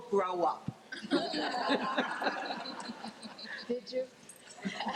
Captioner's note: laughing